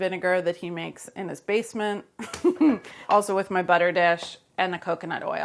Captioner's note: laughs